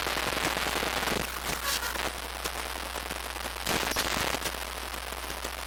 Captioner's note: glitch sound